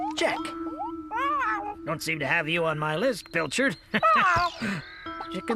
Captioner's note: laughs